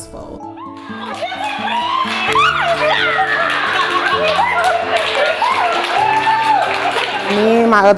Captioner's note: cheering